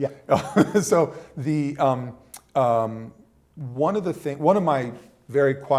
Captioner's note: laughter